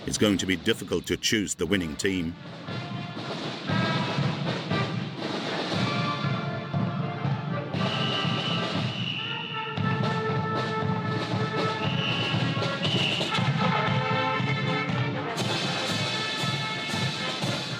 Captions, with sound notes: It's going to be difficult to choose the winning team. (upbeat marching music) (whistle blowing) (whistle blowing)